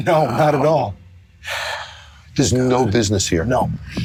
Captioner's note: sigh